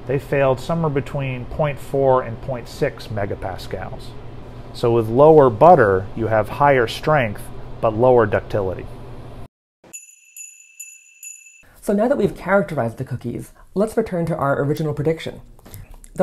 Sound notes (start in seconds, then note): 9.9 sleigh bell jingles